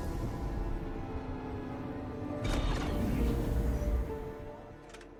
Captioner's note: door opens